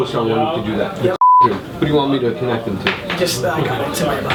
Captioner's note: beeps